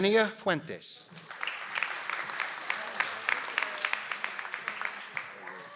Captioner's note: audience applauds